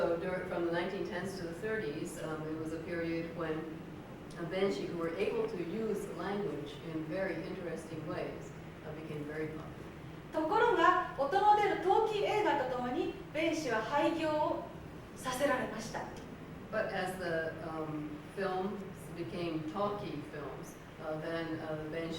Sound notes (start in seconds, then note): 10.7 speaking Japanes